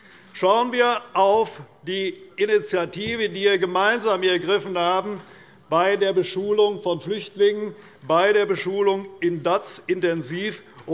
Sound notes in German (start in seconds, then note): none